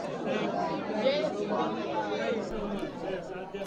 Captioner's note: people talking